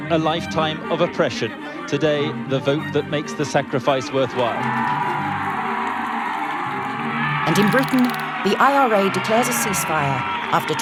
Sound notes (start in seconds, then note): 4.9 crowd cheers